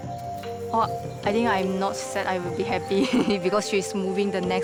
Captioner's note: laughs